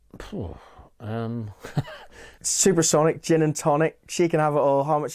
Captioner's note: stammers, laughs